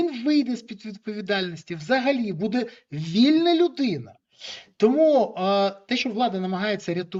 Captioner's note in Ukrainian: сопіння